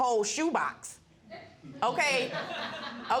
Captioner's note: audience laughing